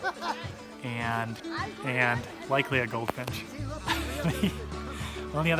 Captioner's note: laughs